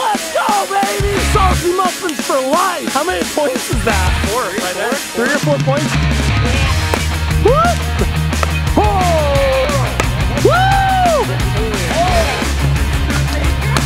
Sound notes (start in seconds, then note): 6.4 energetic rock music; 6.4 whooping